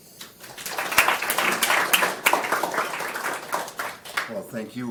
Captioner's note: applause